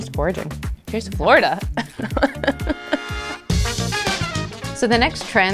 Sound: both laughing

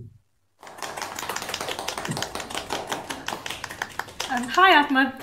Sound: audience clapping

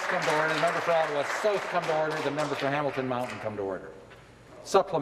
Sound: applause

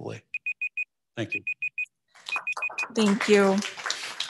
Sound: beeper beeping

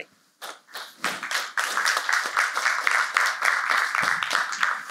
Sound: applause

